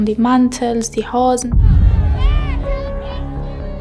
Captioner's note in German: Schreie; Düstere Musik, Stimmengewirr